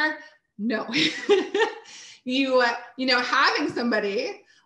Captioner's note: chuckles